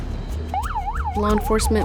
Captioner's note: siren